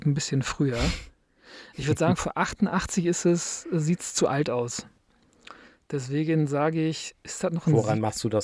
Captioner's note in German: schnauben